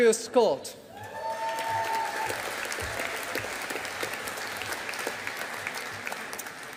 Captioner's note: audience applauding